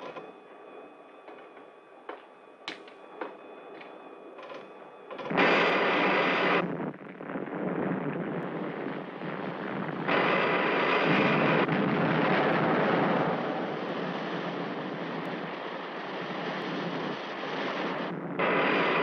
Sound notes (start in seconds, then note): 5.6 laser blasting; 11.0 explosion booming